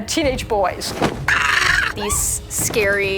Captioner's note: screams